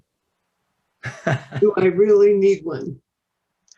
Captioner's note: chuckles